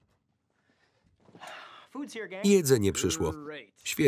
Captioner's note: sighs